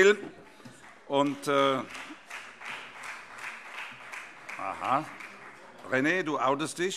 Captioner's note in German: Vereinzelter Beifall